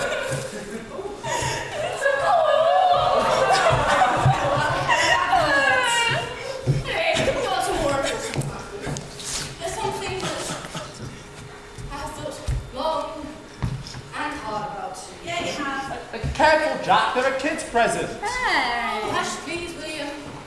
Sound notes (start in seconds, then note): 1.3 audience awws